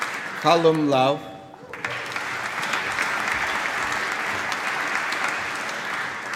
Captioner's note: applause